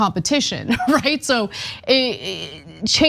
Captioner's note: laugh